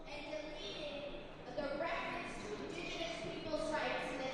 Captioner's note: muffled chatter